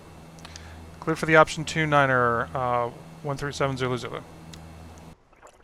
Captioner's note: me on radio